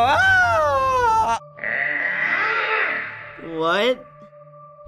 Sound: screams; doll growls

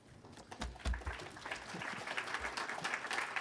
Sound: applause

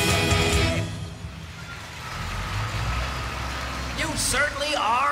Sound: applause

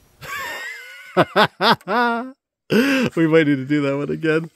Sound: laughing from off-camera

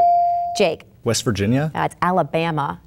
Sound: bell dinging

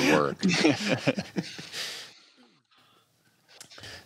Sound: laughter

